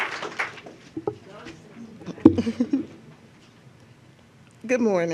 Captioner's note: applause